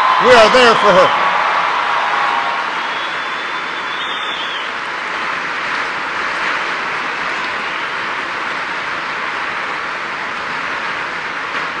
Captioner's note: applause